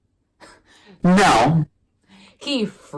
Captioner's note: scoffs